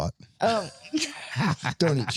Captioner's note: laughing